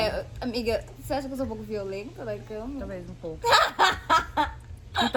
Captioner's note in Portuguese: laughter